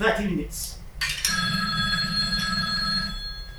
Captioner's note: phone ringing